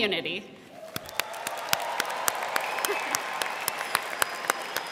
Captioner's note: crowd clapping